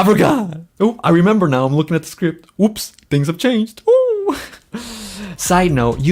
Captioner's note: laughs